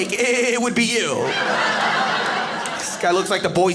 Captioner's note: audience laughing